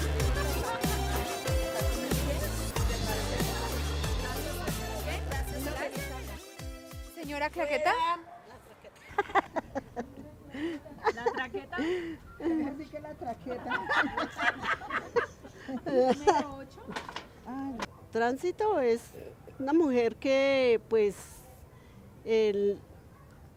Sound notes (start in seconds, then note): 8.8 laughs